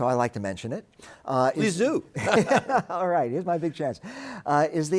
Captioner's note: chuckles